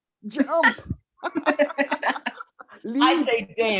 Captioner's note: chuckling